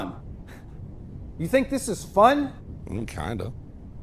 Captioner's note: laughing